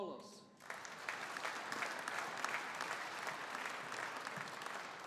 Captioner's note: audience applauding